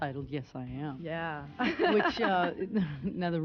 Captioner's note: laughs